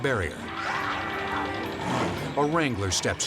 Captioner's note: horn honks